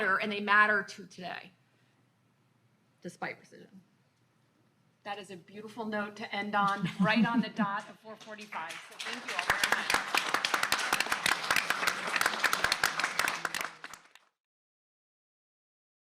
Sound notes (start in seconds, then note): 10.1 audience and panelists clapping